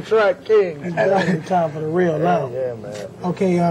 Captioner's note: laugh